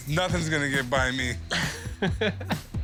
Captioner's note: laughs